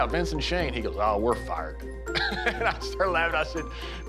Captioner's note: laugh